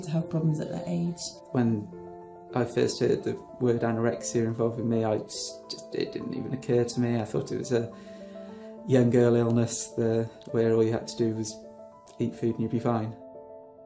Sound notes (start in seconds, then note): 1.6 voiceover